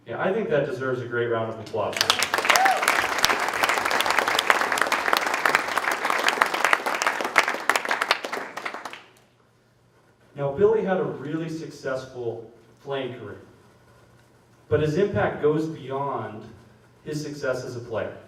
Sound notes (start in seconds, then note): 1.9 applause